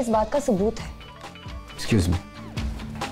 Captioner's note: Phone ringing